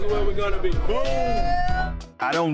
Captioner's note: cheering